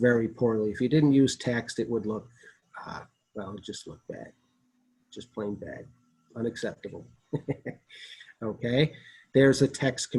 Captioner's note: laughter